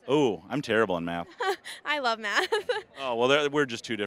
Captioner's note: laughing